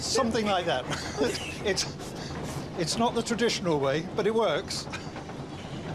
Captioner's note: laughs